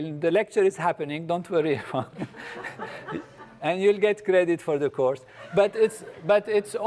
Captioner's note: laugh